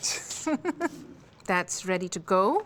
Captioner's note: chuckles